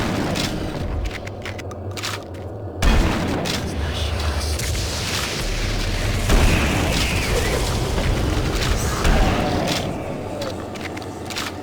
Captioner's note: gun firing